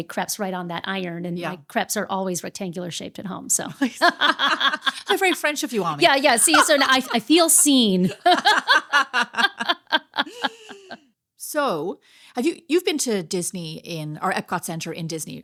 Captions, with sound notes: crepes right on that iron and my crepes are always rectangular shaped at home. (laughing) So very French if you want me. Yeah, yeah, see, so I feel seen. (laughing) So you've been to Disney in our Epcot Center in Disney,